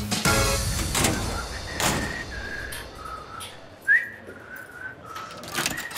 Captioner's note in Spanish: Chiflidos